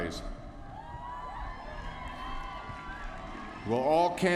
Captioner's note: applause